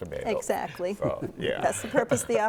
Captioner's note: laughing